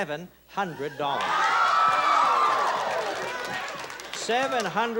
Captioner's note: audience cheers